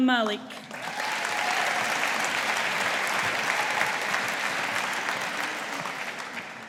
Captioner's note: audience applauding